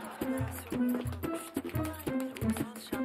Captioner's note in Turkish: Televizyon sesi